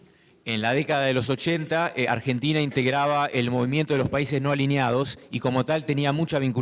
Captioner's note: speaking in foreign language